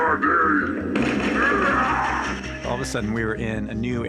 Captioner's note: gunfire and screaming